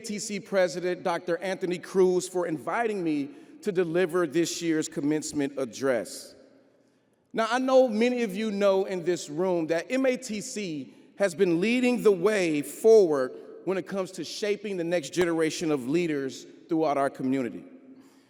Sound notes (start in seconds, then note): none